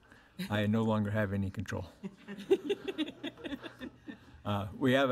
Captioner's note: board laughs